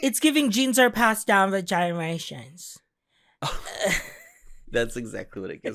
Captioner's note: Sydney Sweeney voice